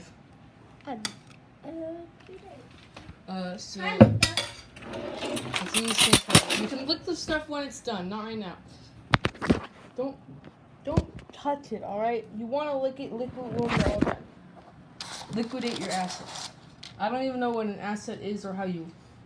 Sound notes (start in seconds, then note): 3.7 bonk; 4.1 clank clank clank